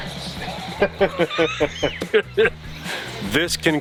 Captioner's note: laughs